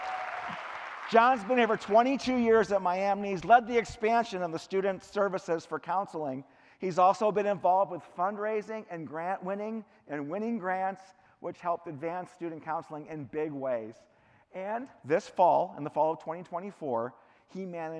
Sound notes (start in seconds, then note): 0.0 cheering; 2.6 clapping